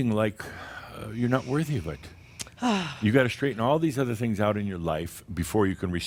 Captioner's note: she sighs